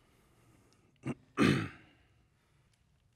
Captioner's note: clearing throat